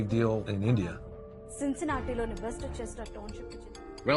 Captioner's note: intense music; reporter speaking